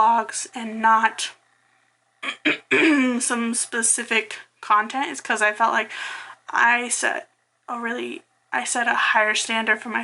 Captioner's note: clears throat